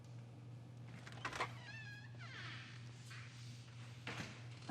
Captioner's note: door creaking